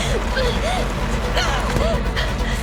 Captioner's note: Miranda cries out